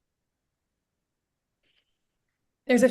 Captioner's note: silence